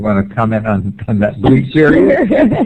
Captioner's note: laughter